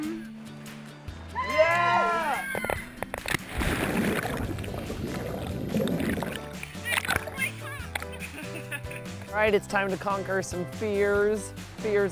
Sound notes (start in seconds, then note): 1.3 screaming